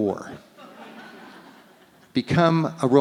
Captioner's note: audience laughs